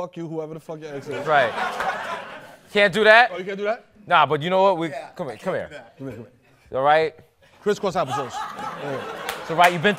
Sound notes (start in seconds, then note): 1.0 laughter